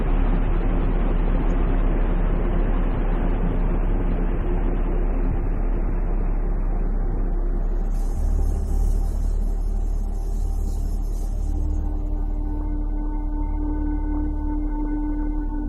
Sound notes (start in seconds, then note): 7.6 lamp buzzing